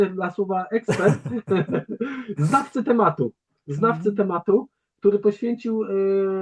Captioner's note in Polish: śmiech